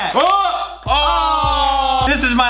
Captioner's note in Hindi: दोनों कराहते हैं